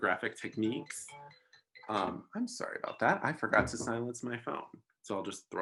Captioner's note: A cellular phone is heard in the background